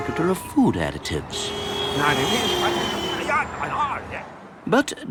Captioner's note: chattering